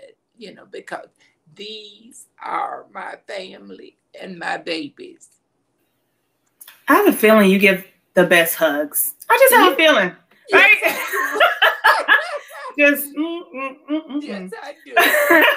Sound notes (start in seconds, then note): 10.6 laughing; 14.9 laughs